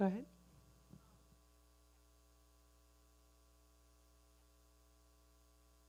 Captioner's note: person speaking away from mic